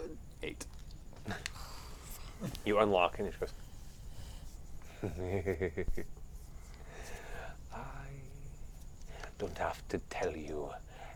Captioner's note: laughs